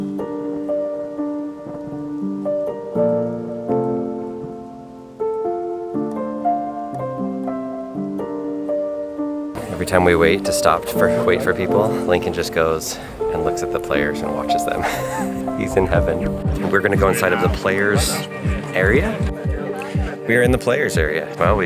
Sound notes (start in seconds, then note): 0.1 soft music; 3.2 rain dripping; 15.2 laughs